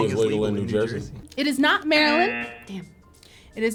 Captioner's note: buzzer buzzes